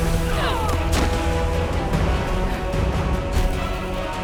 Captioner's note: dragon thumping; dramatic music; group groaning; dramatic music